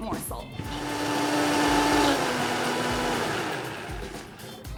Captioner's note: blender whirling